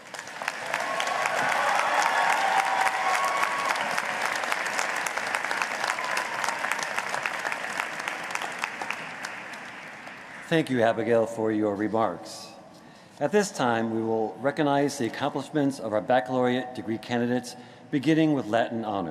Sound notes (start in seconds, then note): 4.2 cheering and applause